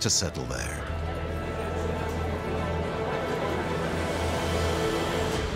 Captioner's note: chattering voices